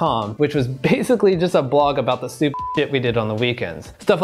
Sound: beep

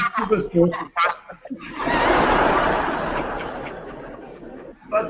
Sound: laughter

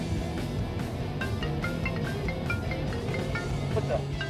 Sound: phone ringing

